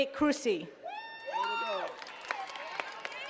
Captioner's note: attendees cheering and clapping